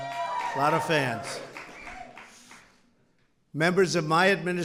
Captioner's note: applause